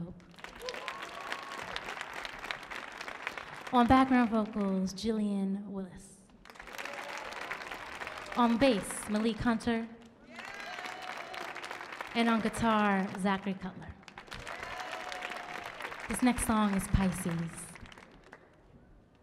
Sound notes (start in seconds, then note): 0.4 audience cheering; 6.4 audience clapping; 10.2 audience cheering; 14.2 audience cheering